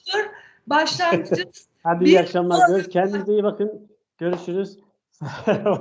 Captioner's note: laughter